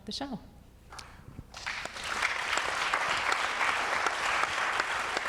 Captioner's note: audience clapping